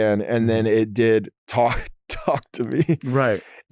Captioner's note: laughing